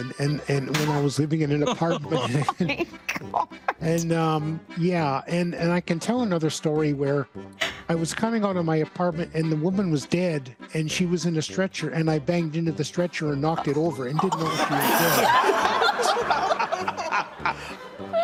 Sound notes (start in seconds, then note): 1.4 hosts laughing; 14.1 hosts laughing; 14.1 audience laughing; 17.9 laughs